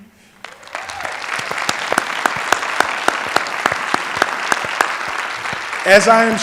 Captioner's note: applause